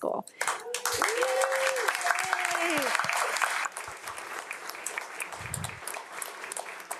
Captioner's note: audience applauds